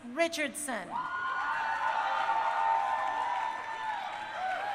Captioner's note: crowd cheering